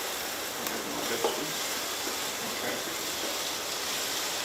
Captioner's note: food sizzling